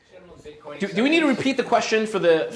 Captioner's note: voiceover